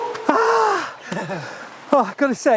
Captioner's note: screams; laughs